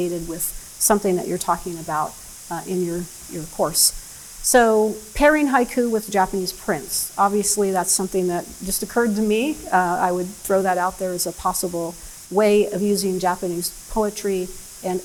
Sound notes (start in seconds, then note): none